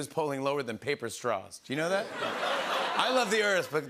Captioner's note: laughter